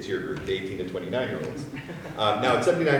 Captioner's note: audience laughs